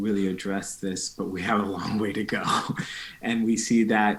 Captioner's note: chuckling